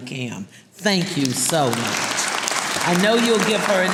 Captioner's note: audience applauding